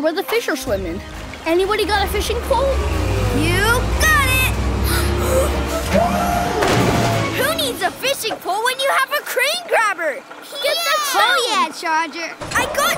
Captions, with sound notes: The fourth stone is well hidden, down in the water where the fish are swimming. -Anybody got a fishing pole? -You got it! [gasps] Who needs a fishing pole when you have a crane grabber?